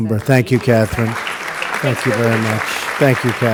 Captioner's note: applause